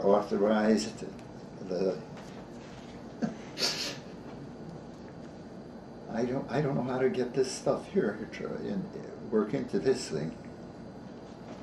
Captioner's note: chuckles